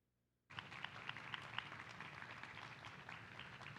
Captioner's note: applause